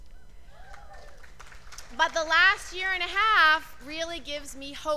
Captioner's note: cheers and applause